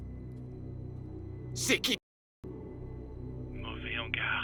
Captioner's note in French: gangster parlant une langue étrangère